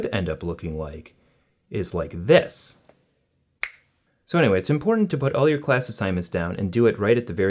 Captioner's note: snapping fingers